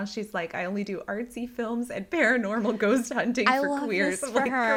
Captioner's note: laughter